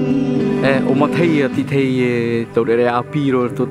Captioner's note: man speaking native language